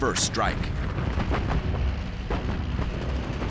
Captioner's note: gunfire